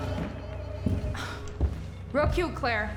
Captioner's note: sinister music continues; Rachel sighs